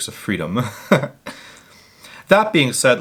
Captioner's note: giggles softly